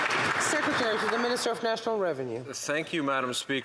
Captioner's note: some Applause